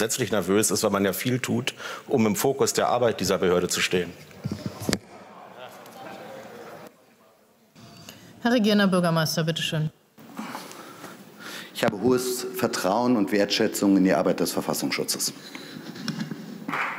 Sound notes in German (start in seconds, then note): 14.8 Beifall